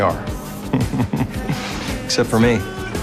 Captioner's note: chuckles